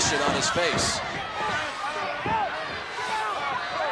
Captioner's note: crowd yelling